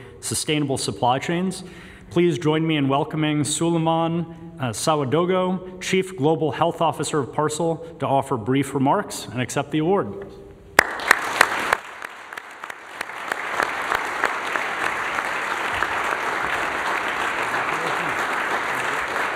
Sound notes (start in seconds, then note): 14.6 applause